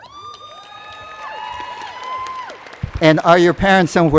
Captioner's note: applause